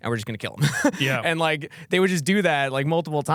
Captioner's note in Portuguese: risos